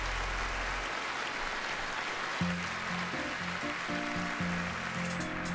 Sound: song ends; crowd cheering

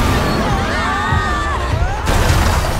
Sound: screams

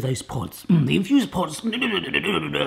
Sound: grunts

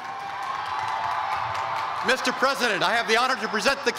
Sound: cheers and applause

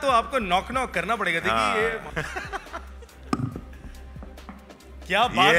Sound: laughs

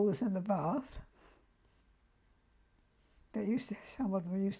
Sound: pauses for 3 seconds

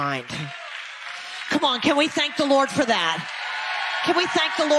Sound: audience applause

